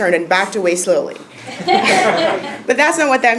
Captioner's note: laugh